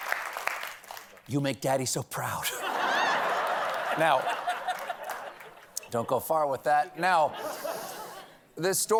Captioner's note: laughter